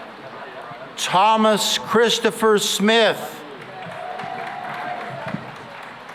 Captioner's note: cheering and applause